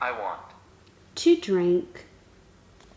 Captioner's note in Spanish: voz masculina del aparato